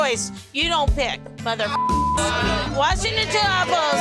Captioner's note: beep